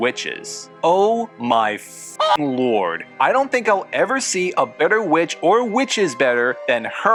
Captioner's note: cluck